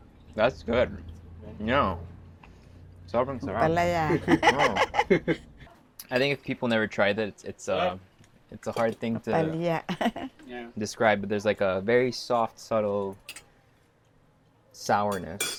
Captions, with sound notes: That's good. It's very delicious. - Ampalaya. (laughs) - I think if people never tried that, it's a hard thing to describe, but there's like a very soft, subtle sourness.